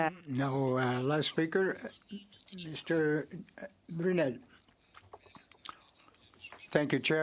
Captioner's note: speaking French